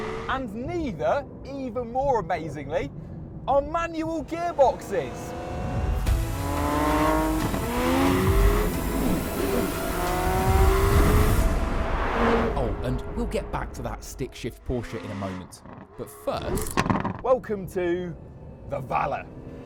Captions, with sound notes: And neither, even more amazingly, are manual gearboxes! (CAR ROARS) Oh, and we'll get back to that stick-shift Porsche in a moment. But first, welcome to the Valour.